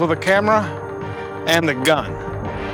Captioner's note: none